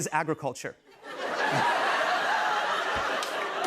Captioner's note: laughter